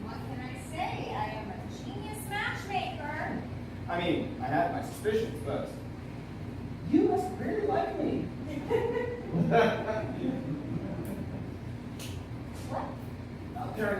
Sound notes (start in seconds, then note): 8.5 laughter